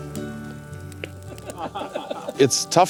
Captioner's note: soft Laughter